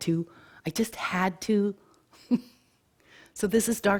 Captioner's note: chuckles